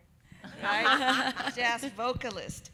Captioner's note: everyone laughing